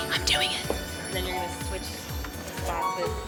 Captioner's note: whispers